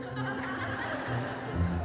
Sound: crowd laughs

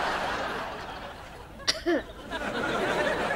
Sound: coughing

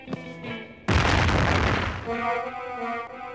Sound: crash

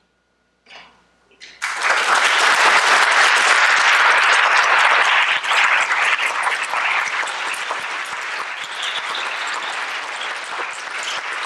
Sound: applause

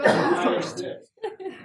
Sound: laugh

